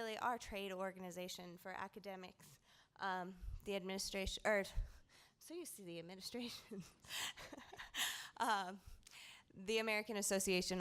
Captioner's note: laughter